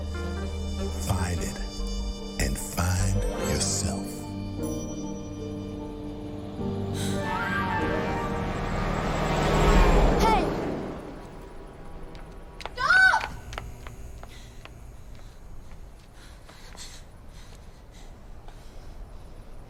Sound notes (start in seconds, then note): 7.1 horn honking